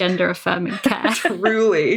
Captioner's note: laughs